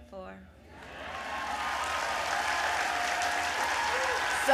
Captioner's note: applause